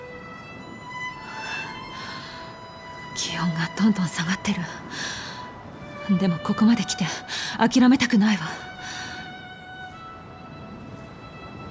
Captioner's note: shivering